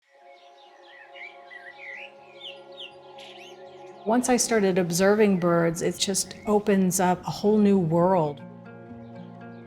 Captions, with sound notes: (birds chirping) (gentle music) - Once I started observing birds, it just opens up a whole new world.